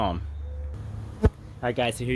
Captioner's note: bees buzzing